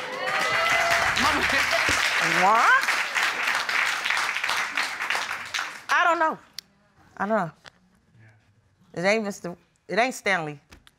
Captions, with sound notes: -[audience cheers] -Mama... What? I don't know. I don't know. It ain't Mr... It ain't Stanley.